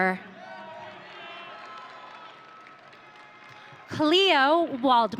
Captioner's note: audience cheering